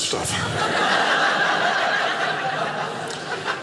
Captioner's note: audience laughing